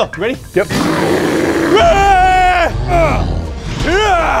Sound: screaming

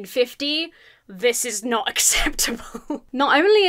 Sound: laughs uncomfortably

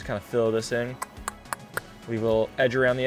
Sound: clicks

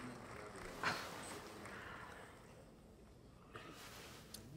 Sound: June scoffs

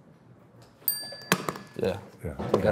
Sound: bell dings

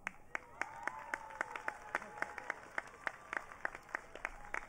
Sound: audience cheering

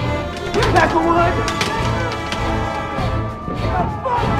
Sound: crowd shouting

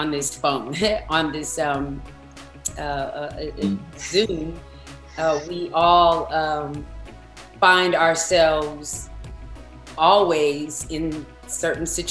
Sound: laughs

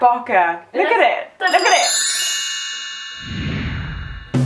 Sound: 'Sparkly' sound effect

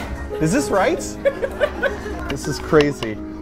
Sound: laughs

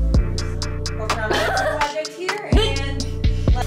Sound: laughter

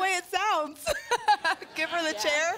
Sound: laughter

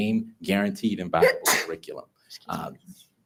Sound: member sneezes

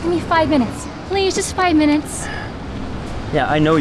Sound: karl sighs

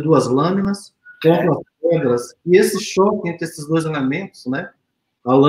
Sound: speaks portuguese

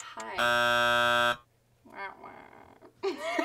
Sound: buzzer rasps

